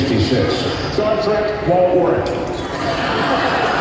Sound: laughter

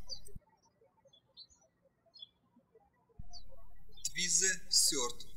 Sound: birds chirping

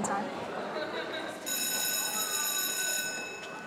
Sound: class bell rings

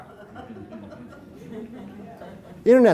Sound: audience chuckles

